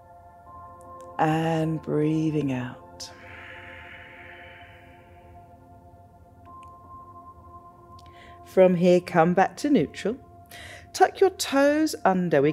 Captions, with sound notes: and breathing out. (exhales) From here, come back to neutral. Tuck your toes under.